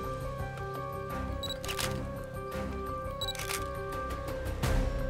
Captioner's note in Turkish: Deklanşör sesi